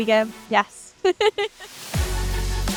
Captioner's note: laughs